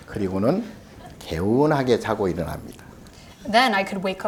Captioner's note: speaking Korean